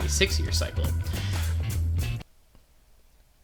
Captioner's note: inhales